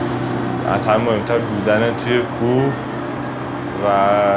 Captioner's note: speaks in other language: translation on screen